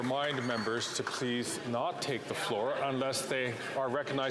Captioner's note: some Applause